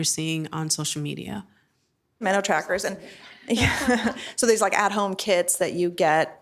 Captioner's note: chuckling